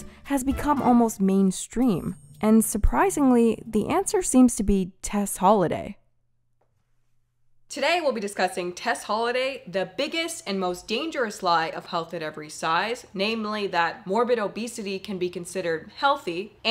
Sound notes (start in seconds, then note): none